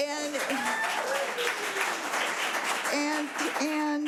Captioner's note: audience applause